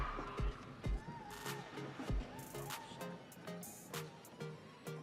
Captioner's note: audience cheering